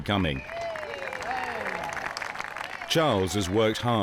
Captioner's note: crowd clapping